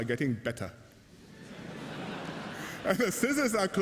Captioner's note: laughter